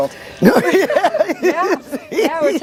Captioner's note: laughs